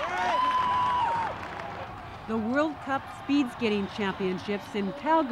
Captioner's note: cheering